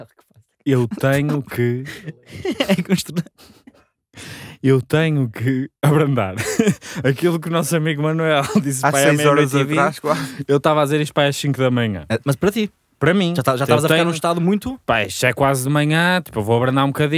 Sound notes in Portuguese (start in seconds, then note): 6.3 risos